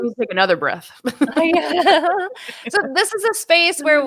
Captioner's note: laughing